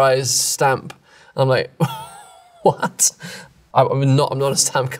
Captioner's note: chuckles